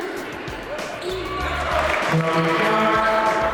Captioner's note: yelling